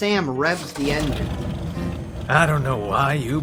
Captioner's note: engine revs